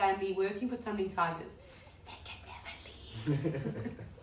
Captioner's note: whispering